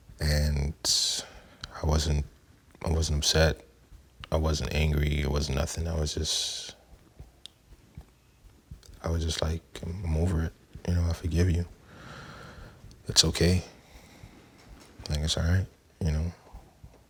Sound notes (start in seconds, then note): none